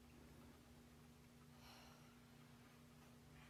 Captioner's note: sighs